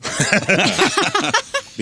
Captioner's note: laughing